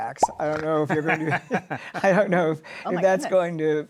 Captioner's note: laughs